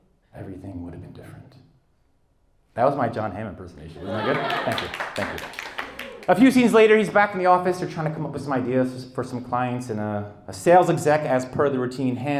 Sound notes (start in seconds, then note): 4.0 audience applauds